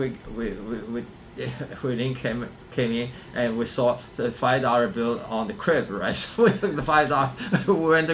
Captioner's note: laughs